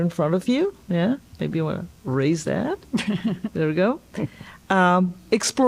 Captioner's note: laughter